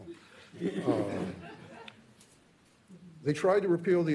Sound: laughter

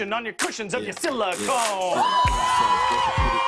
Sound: cheers and applause

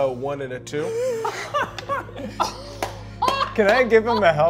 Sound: all laugh

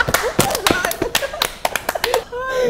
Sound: clapping

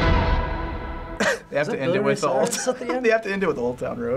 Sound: laughs

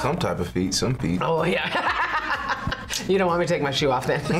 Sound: laughs

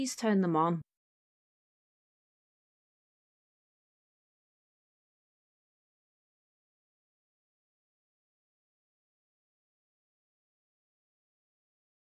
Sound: absolute silence

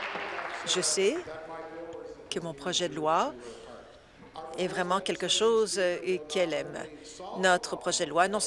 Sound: applause

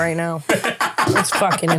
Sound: laughing

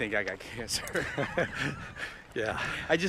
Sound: laughter

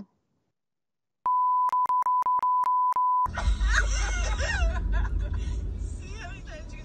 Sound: laugh

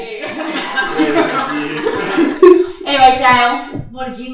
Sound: all laughing

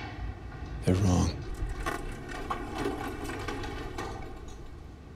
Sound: elevator clacking

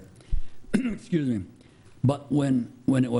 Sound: clearing throat

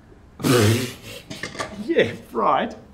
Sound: laughs

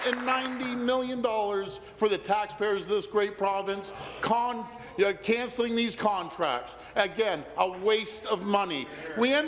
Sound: applause

